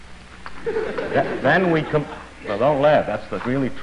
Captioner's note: ضحك الجمهور